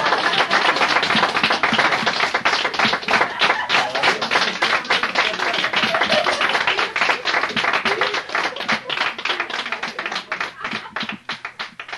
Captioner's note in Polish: Aplauz